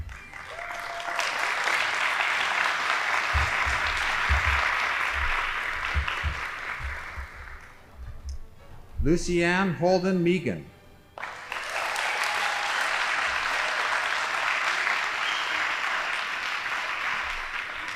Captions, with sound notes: (audience applauding) Lucianne Holden Meagan. (audience applauding)